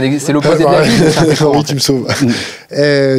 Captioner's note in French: rires